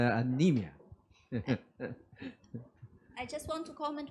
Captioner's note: laughs